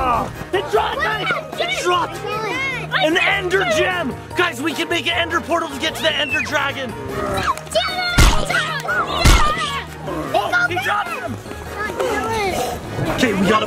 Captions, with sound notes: - It dropped, guys. It dropped. An Ender gem. Guys, we can make an Ender portal to get to the Ender dragon. (groans) - Oh, he dropped them.